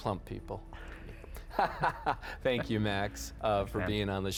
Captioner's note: laughs